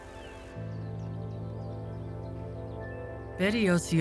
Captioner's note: birds chirping